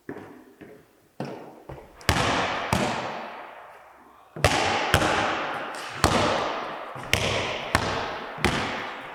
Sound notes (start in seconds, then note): 2.4 ball tapping; 7.0 ball tapping